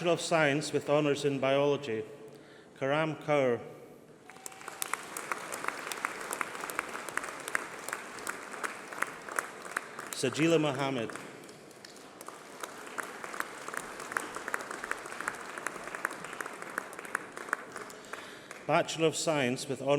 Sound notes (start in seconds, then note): 3.4 applause